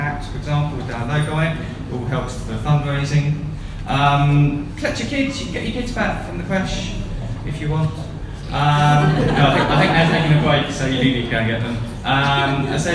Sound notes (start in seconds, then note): 8.7 laughter